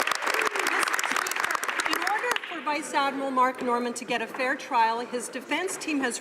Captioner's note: some Applause